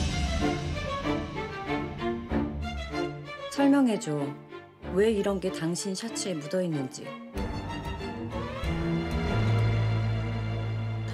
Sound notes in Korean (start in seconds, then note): none